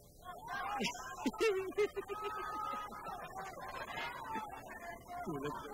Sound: giggles

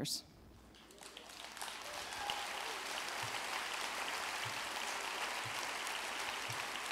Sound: audience clapping

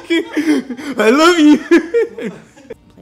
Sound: laughing

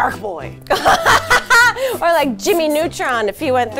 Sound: laughs

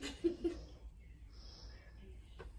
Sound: girls laughing

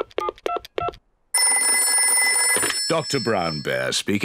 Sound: dials phone; phone rings

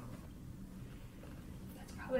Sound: tearing up

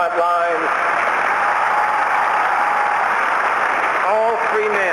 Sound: cheering

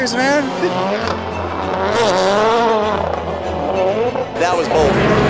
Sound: race car engines roaring

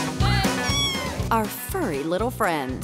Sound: kitten meows

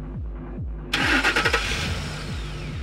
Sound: engine turns on

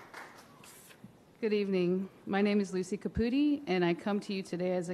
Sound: applause

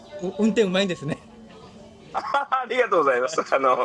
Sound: laughs

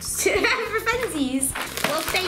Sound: laughing

